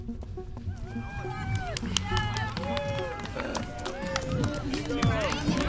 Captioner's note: crowd cheers